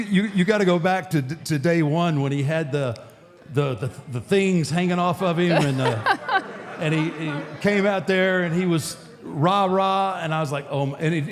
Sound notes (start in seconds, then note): 5.5 Michelle laughs